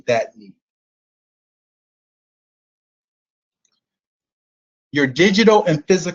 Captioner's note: silence